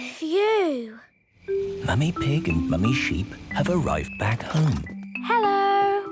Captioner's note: whispering